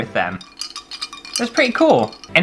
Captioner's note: clinky Sounds